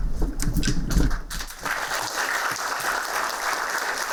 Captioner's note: applauding